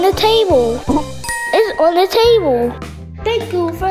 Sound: bell chiming

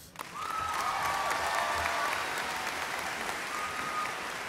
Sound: audience cheers and applauds

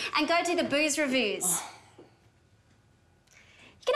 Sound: sighs

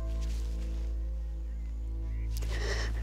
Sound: sniffles

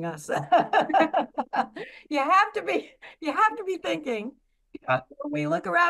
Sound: laughs

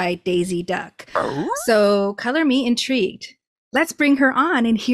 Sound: confused Scooby Doo sound

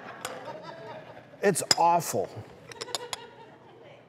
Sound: audience chuckles

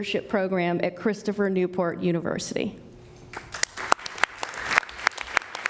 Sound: applause

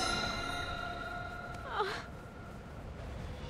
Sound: crying

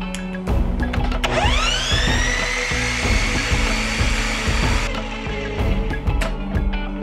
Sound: more whirring

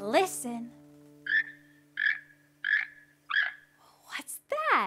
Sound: toucan squawking

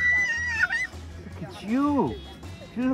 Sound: upbeat music plays; Coleman screams

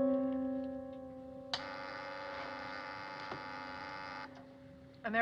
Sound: buzzing

